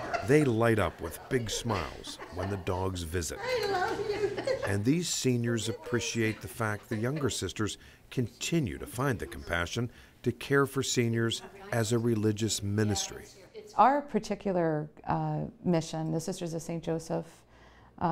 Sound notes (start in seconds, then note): 0.0 group laughs; 4.4 laughs